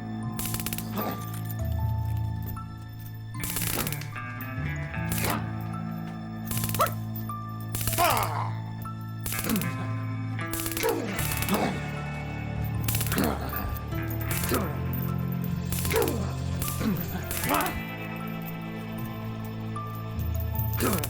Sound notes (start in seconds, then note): 0.3 taser zapping; 0.9 zombie walter groaning; 7.7 taser zapping; 7.9 zombie walter groaning